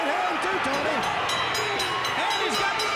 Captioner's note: bell dinging